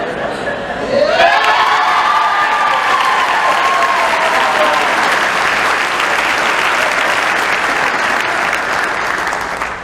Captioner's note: crowd applauds